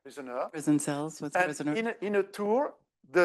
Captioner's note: speaking French